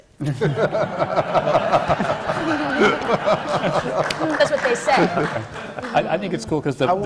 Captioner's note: laughter